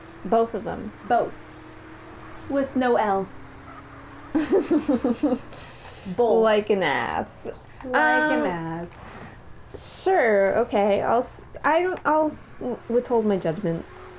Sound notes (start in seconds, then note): 4.3 laughter